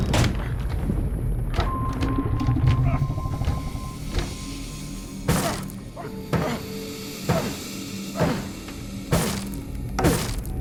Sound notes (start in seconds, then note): 5.1 thudding